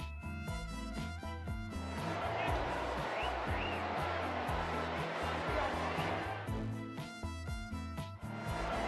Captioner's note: cheers